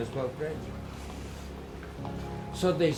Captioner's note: city crowds